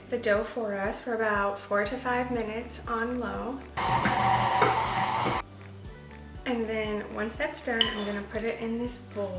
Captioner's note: mixer